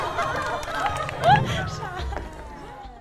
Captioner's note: Crying from laughing too much